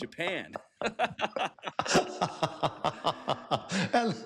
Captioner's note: laughter